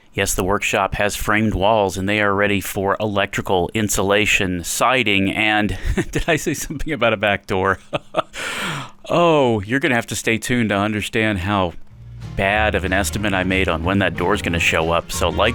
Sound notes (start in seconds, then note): 7.6 laughing; 8.3 sighs